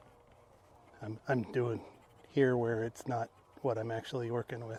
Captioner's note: scratches